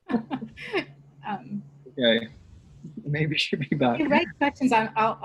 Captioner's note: laughs